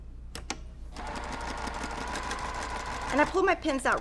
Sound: sewing machine resounding

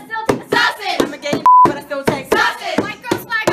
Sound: beep

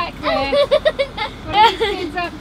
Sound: children laughing

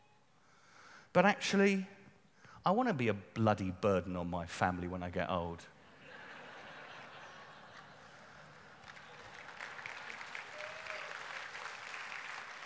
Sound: laughter and applause

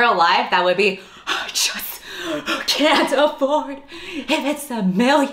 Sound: gasping for air

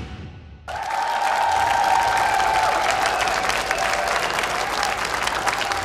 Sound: applause

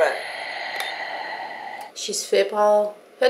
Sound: oxygen mask and breathing sound

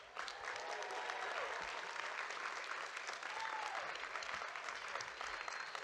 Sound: audience cheering and clapping

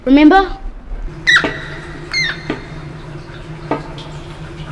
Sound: rat squealing

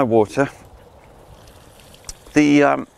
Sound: water splashing

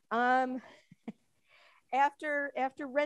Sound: chuckles

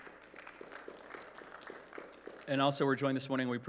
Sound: applause

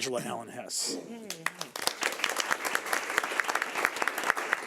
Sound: audience clapping

